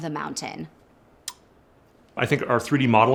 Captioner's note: lips smacking